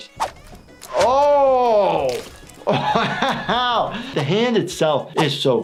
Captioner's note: laughs